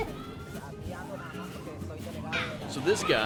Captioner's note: speaking Spanish